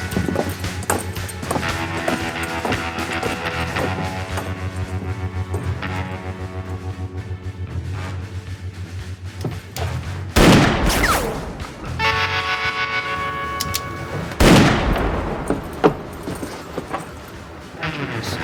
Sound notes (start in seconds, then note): 10.3 gunshots